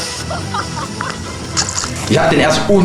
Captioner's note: laugh